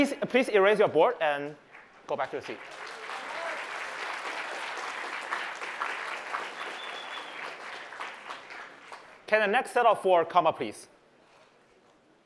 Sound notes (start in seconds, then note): 1.6 applause